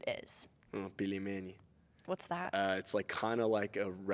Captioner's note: speaking in Russian